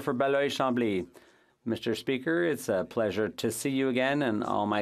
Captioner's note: speaking French